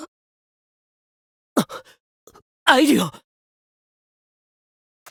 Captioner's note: gasp